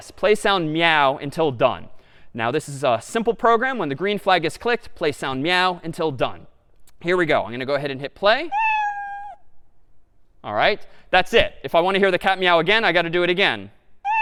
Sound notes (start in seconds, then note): 8.5 meow